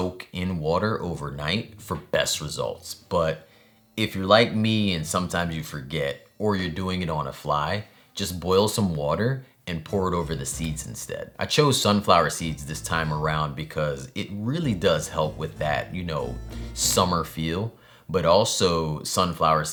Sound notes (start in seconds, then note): none